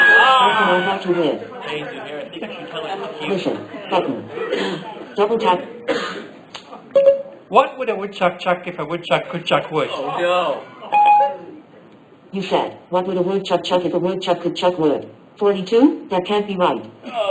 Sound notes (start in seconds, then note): 0.2 laughter; 4.8 Siri beep